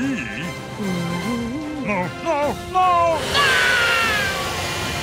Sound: laughing; screaming

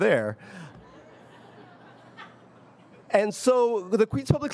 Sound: audience laughs

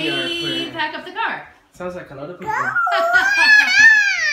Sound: laughing

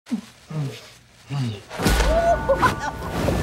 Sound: grunting noises; laughing

